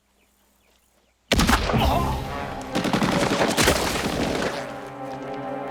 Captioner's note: machine Gun Fire; shot Fired; machine Gun Fire